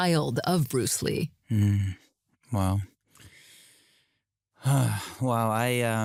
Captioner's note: inhales, exhales deeply